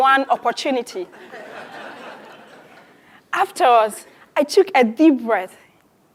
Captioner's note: laugh